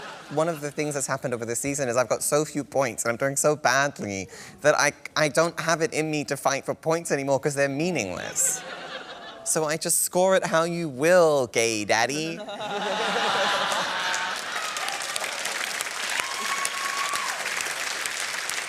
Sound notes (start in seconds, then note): 8.4 laughter; 12.3 laughter; 13.3 cheering and applause